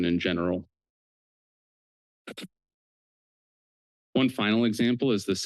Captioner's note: pause